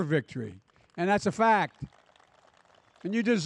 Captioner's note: applause